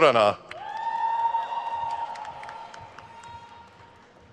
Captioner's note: crowd cheers